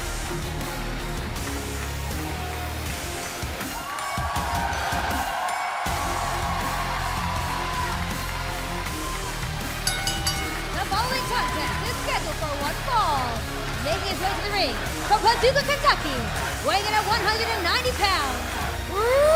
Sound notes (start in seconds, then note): 9.8 bell ringing